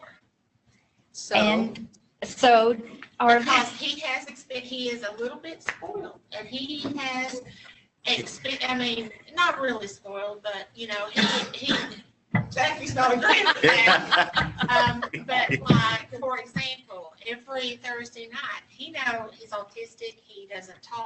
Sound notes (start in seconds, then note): 13.0 laughter